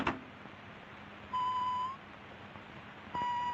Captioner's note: beeping